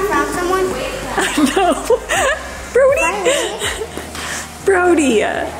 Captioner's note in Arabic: يضحك